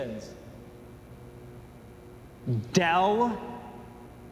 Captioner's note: light buzzing